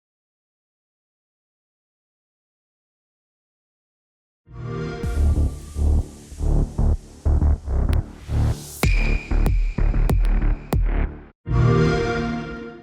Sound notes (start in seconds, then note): 4.3 xbox sound